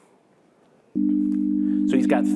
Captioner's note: low tone